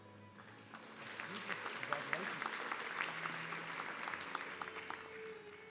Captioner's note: audience clapping